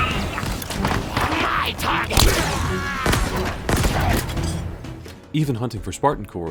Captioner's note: gunfire